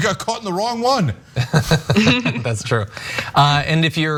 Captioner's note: laugh